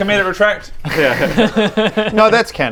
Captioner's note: cautious laughter